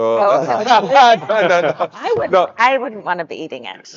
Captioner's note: speakers laughing